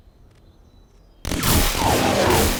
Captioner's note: gunshots